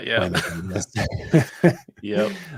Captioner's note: laughter